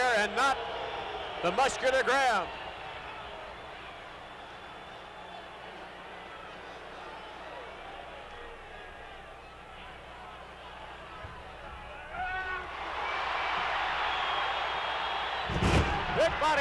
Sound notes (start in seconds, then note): 3.3 audience cheering; 12.1 audience roaring